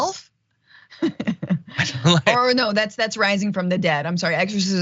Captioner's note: laugh